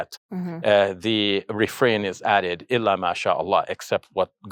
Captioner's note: speaks in Arabic